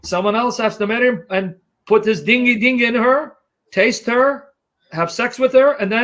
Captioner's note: none